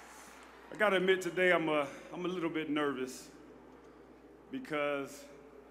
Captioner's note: cheers